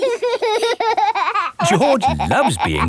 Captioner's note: laughing